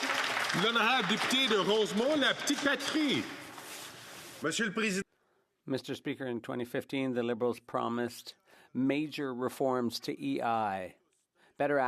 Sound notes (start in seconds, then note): 3.3 applause; 6.7 speaking French